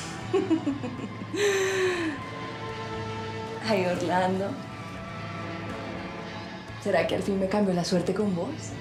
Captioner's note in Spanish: carcajadas